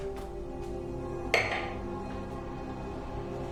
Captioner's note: glass clanking